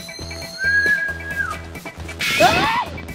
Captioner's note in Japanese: 口笛